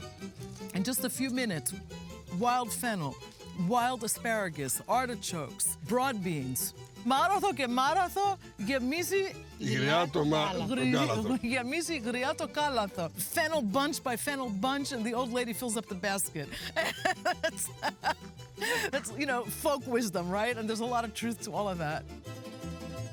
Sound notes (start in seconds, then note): 7.3 speaking in greek; 16.5 laughs